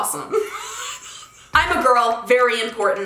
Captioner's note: laughing